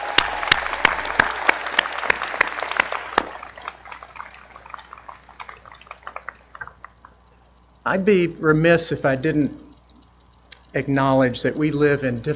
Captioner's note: applause